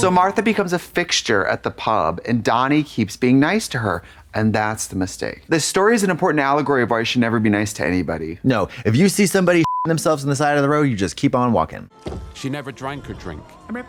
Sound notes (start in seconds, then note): 9.6 beep